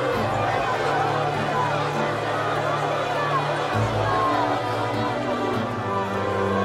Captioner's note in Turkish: Kalabalık bağrışma sesleri